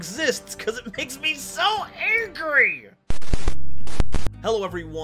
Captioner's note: static Noise